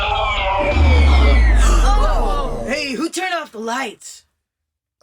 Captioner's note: the mainframe BEEPS